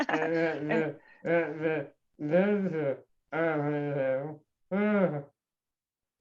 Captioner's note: laughter